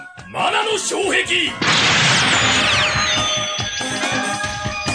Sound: SFX: sound of magic

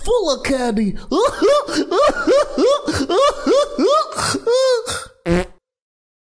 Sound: Young Chop's Ridiculous Laughter

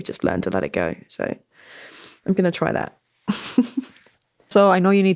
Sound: laughter

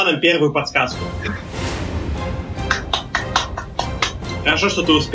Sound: claps his old limping hands

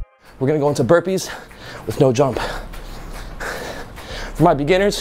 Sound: exhales deeply

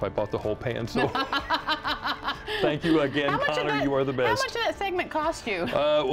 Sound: laughter

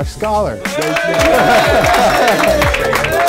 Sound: applause

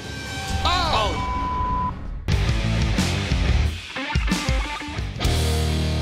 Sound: beep; energetic music; intense metal music

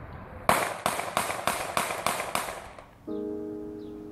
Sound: gun shots fire

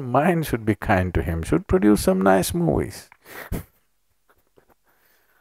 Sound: laughs

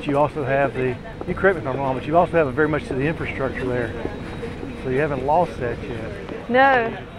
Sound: chatter

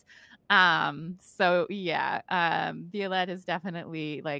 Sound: none

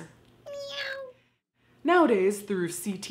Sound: cat meows

